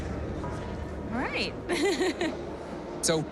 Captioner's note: chuckling